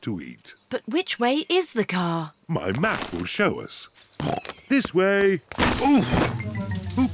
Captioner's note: snorts